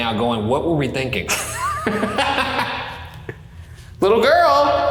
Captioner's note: laughing